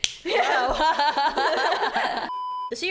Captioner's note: laughs